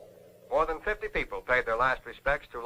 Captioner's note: radio Announcer